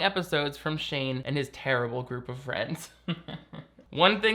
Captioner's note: chuckles